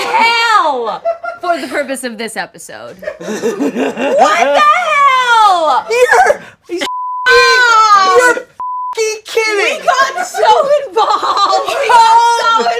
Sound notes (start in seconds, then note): 3.1 giggles madly